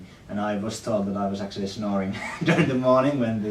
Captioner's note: laughs